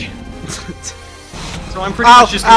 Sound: laughs

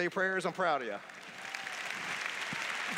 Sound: applause

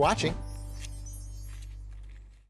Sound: chimes jingling

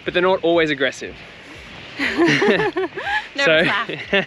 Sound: both laugh

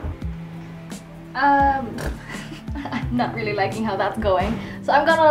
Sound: blows a raspberry and laughs

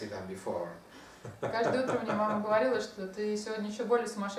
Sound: hahaha

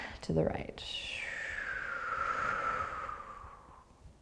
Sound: exhaling breath

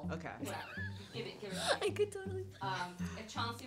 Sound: laughs

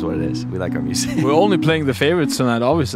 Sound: laughs

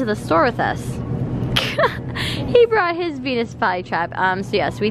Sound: chuckles

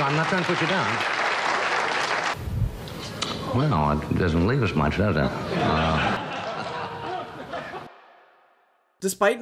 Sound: audience laughs and claps; audience laughs and claps

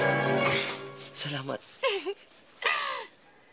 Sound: chuckles

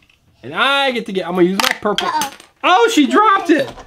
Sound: voiceover

